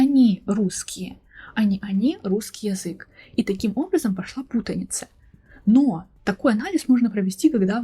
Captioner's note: Russian language